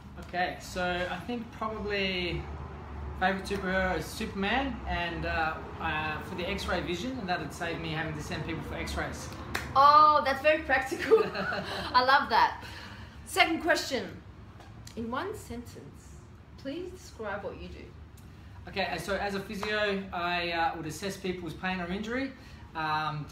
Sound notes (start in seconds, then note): 9.4 claps; 11.0 laughs